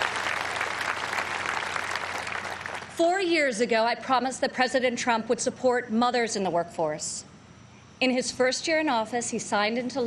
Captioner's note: applause